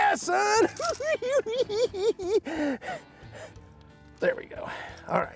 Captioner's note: cackling